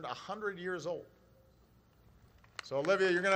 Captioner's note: applause